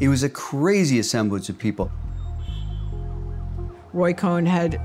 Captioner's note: sirens wailing, car horn honks